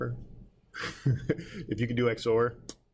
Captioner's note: chuckling